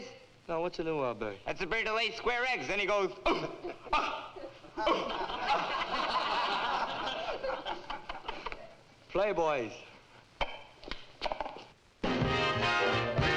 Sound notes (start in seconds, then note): 3.6 crowd laughing; 12.1 lively orchestral music